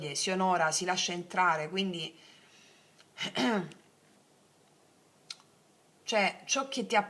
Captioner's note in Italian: schiarire la voce